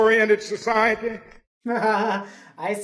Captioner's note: laughs